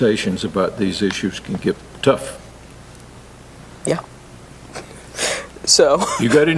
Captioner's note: laugh